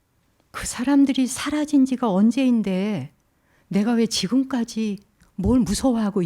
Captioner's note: speaking in Korean